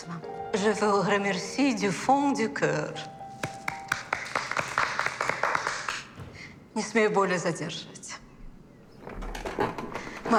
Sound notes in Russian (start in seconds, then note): 0.5 Говорит по-французски